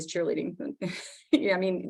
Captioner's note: laughs